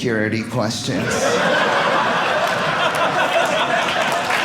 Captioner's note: audience laughing; audience applauding